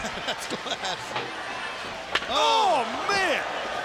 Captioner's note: laughs